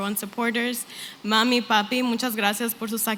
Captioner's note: non-english